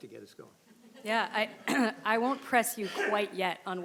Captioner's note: attendees chuckling